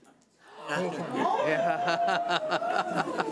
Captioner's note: gasping